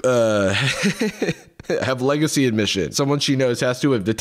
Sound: laughs

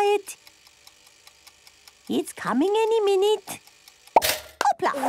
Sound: toaster ticking; pops

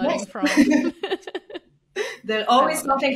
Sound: chuckles

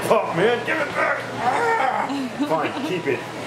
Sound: grunting

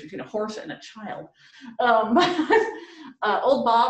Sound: laughs

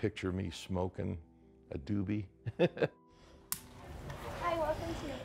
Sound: laughs

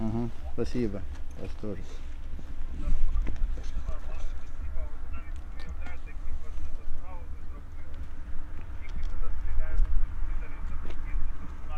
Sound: sounds of phope conversation

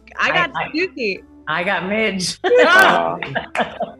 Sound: laughs; Rachel laughs

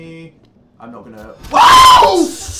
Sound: screech

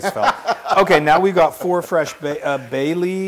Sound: laugh

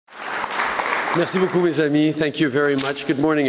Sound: applause

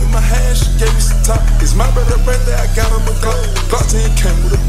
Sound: woo

